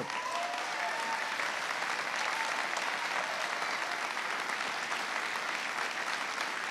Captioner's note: applause